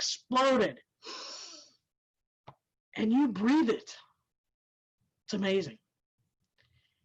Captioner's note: inhales